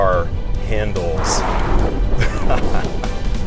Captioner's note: whoosh!